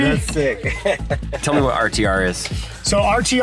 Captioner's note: laughs